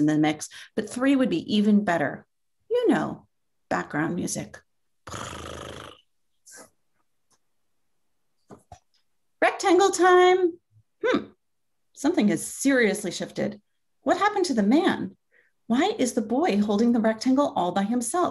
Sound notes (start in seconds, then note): 5.1 cat purr